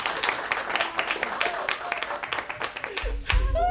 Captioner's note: applause